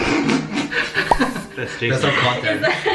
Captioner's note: laughs